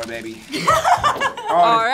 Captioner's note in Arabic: تضحك